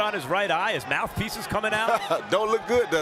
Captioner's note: laughs